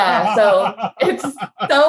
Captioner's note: laughing